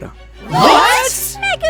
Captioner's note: gasps